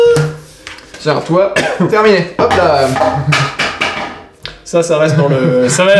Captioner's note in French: bruit rigolo